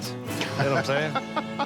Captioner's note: laughing